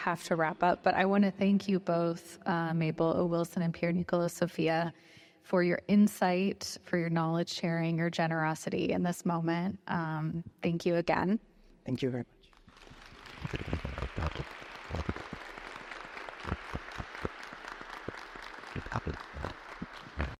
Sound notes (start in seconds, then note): 12.6 audience applauds